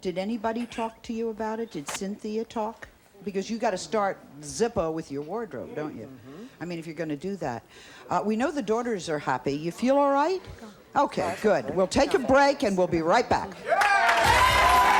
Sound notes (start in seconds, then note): 11.2 guests mumble